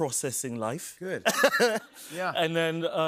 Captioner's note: laughs